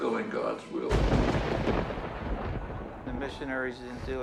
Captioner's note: thunder echoing